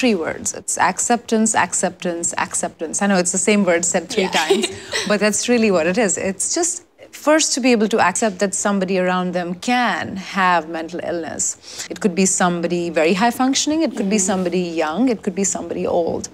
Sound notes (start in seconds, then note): 4.1 laughs